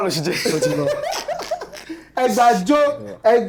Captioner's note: laughs